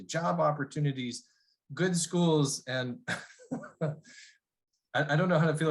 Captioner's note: laughter